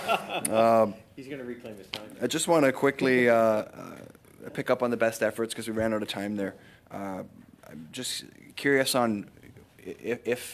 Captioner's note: laughter